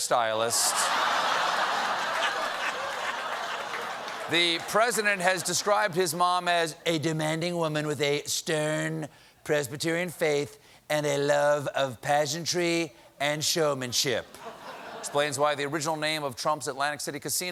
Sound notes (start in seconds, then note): 3.3 laughter